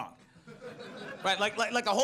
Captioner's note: audience laughs